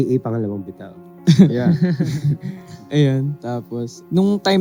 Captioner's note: laughs